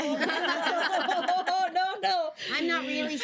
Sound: everyone laughs

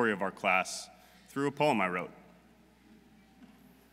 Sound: none

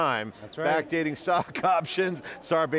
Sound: chuckling

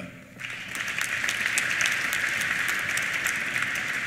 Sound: applause

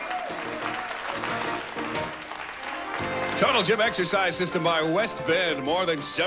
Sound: audience applauding

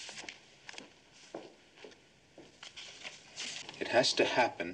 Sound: footsteps receding

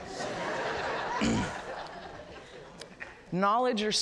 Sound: audience laughs

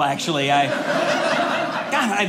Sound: audience laughing

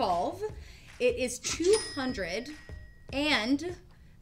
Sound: till rings

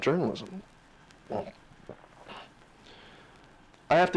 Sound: clears throat

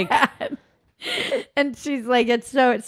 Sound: laughing

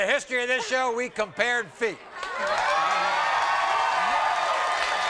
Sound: crowd cheering

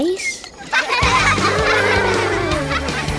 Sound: laughing

